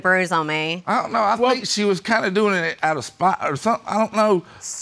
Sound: stammering

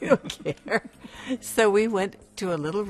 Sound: laughing

